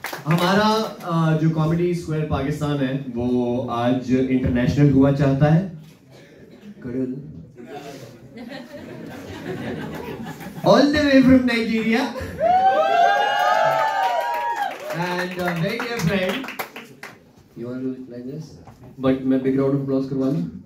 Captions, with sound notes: Hamara woh aaj international hua chahta hai All the way from Nigeria! (applause) and a very dear friend But- mein 'big round of applause' karwa loon?